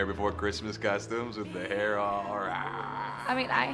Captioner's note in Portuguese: rugindo